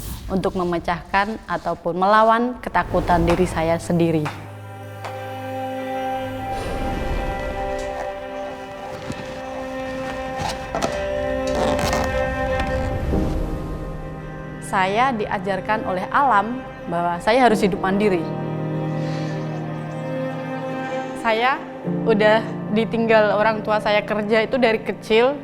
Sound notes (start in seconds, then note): 5.0 soft music continues; 5.6 blowing; 10.8 creaking; 18.6 soft music continues